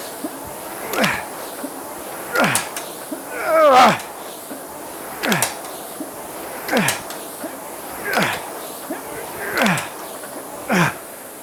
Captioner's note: grunting